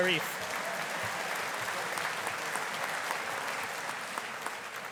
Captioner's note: audience applauding